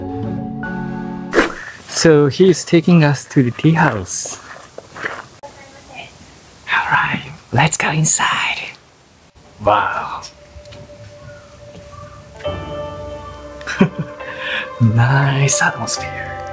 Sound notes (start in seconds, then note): 6.5 whispers